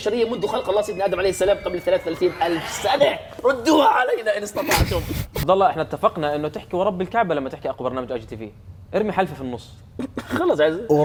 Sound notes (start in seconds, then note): 4.9 laughs